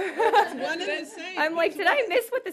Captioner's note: laughter